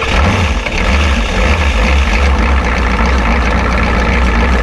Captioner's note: car engine starting